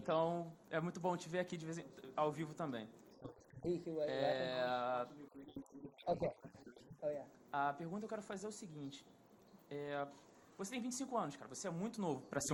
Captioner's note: speaking foreign language